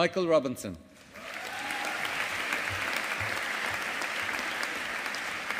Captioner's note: audience applauding